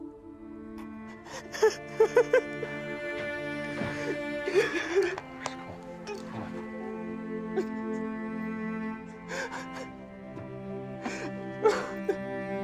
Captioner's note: crying; crying